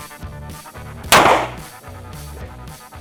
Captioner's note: gunshot